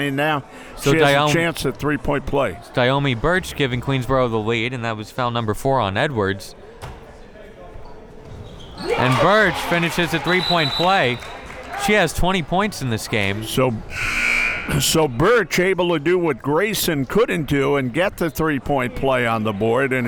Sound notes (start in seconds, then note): 10.4 whistle tweeting; 13.9 buzzer ringing